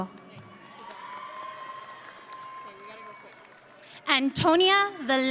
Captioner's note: audience cheering